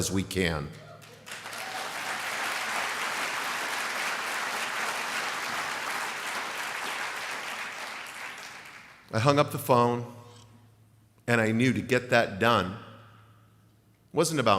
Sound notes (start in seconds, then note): 3.7 applause